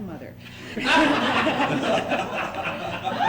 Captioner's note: laughter